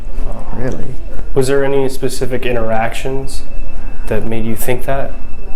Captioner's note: people talking